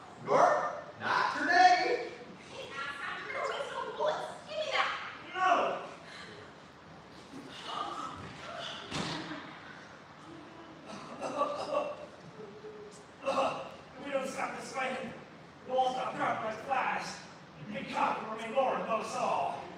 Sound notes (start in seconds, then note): 13.1 coughs